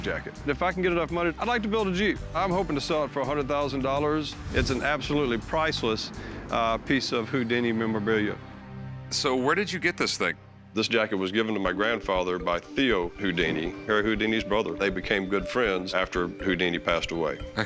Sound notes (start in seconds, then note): none